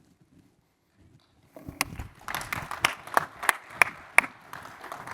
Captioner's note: applause